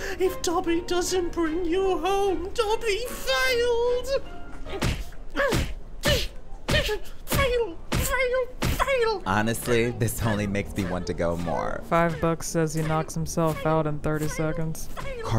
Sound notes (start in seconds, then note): 4.8 head thudding